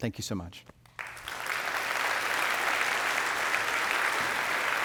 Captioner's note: audience clapping